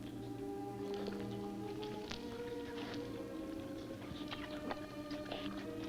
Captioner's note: slurping